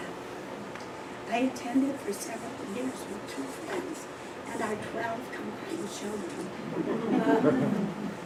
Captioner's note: laughter